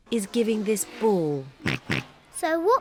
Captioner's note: oinks